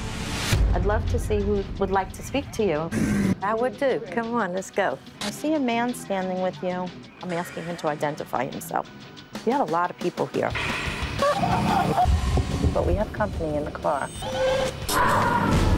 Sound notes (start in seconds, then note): 11.2 crying